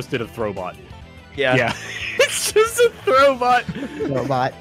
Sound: laughs

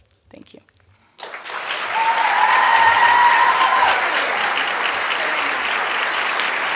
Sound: raucous applause

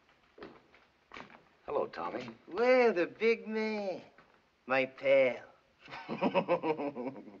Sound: chuckling

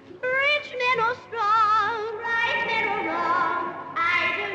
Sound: shrieks

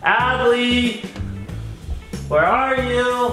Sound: none

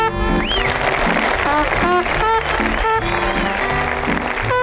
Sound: audience clapping

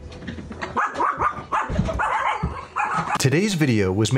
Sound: dog barking

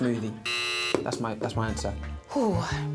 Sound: buzzer rings

